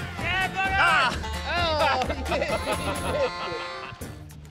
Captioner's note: laughs